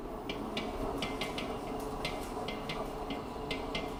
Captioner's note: mixer clanking